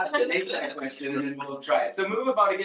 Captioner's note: people chattering distantly